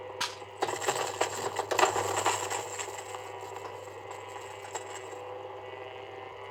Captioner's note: grinder whirring; stone grinding and clacking; stone clacking